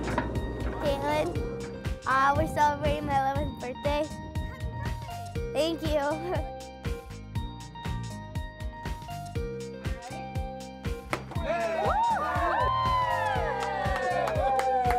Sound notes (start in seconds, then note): 7.5 upbeat music; 11.4 cheering